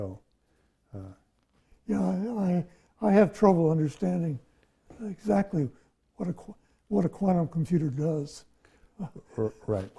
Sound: laughs

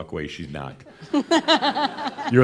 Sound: some chuckles

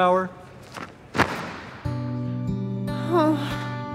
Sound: flags snapping; somber music

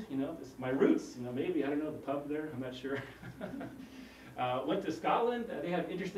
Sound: laugh

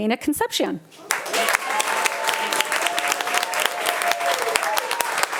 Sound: audience applauding

